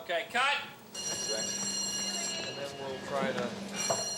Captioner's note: bell rings